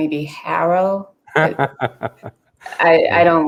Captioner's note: laughs